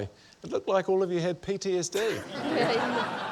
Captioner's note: laughter